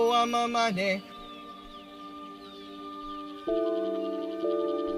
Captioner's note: footsteps fade out, forest sounds gradually fade